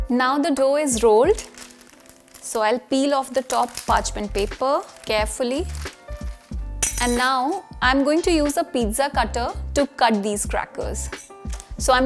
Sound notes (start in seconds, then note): 1.4 paper rustling; 6.8 cutlery clinking